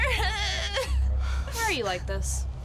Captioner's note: sobs